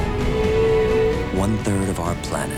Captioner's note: whale singing